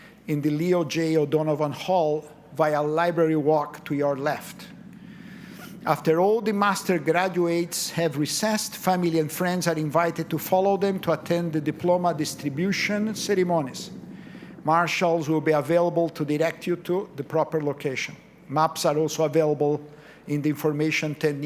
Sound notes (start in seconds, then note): none